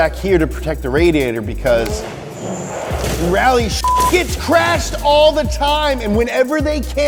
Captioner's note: beep